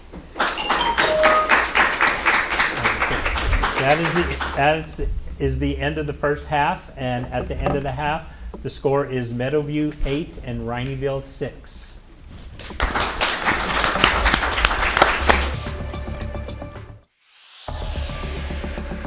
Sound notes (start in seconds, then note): 0.1 audience applauding; 0.5 percussive jingle playing; 12.6 audience applauding; 15.4 upbeat electronic music